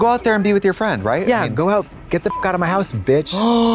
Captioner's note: beep; Trixie gasps